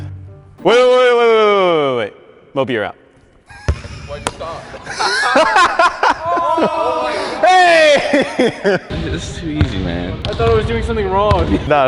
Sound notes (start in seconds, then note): 4.4 all laughing